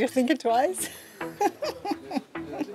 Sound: chuckles

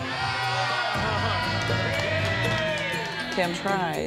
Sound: cheering

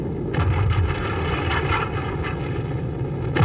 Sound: gun booming

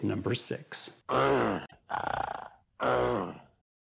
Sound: grunts

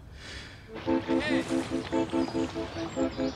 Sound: coxswain yells

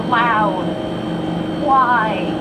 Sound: refrigerator motor buzzing

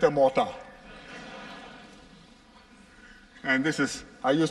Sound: laughter

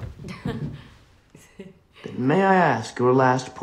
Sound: amy chuckles

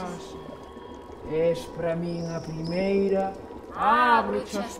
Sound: distorted voices in unison; distorted low voice; distorted voices in unison

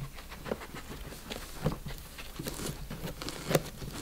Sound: dogs sniffing

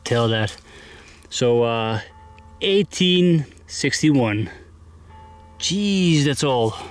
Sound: church bells ringing

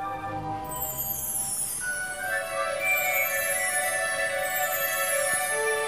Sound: tinkling

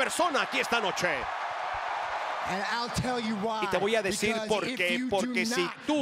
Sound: applause

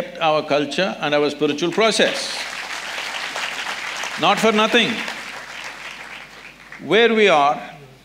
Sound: applause

